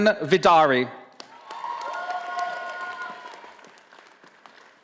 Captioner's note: audience applauding